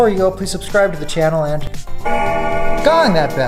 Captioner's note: bell gongs